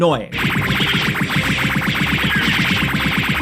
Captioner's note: attacks beep